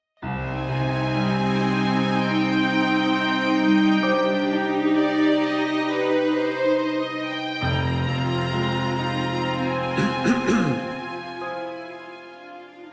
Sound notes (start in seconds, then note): 0.2 sweeping music; 10.0 clearing of throat